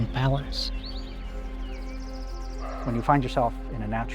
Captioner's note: birds chirping